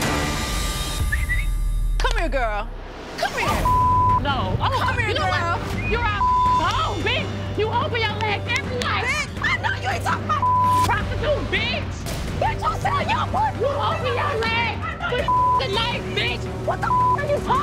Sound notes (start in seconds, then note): 3.5 beep; 5.7 beep; 10.4 beep; 15.2 beep; 16.8 beep